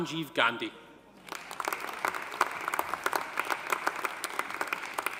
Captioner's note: audience applauding